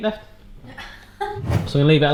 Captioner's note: laughter